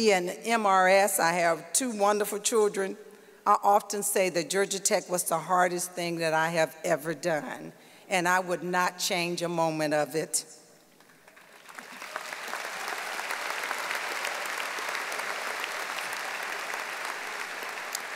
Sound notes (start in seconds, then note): 11.0 audience applauding